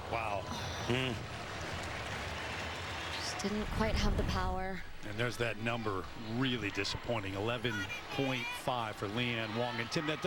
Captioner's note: cheers